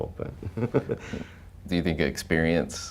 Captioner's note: laughing